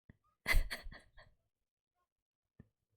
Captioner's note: laughs